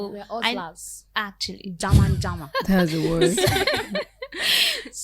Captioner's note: laughter